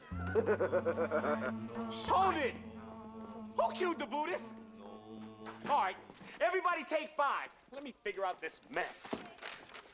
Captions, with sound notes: ( chuckling ) LDHO IT! WHO CUED THE BUDDHISTS? AL L RIGHT, EVYBERODY TAKEIV FE. T LEME FIGURE OUTTH IS MESS.